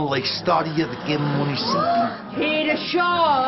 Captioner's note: muttering and expressions of surprise